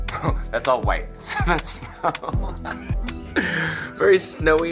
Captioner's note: laughs